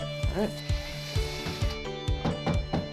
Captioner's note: drill whirring; soft hammer banging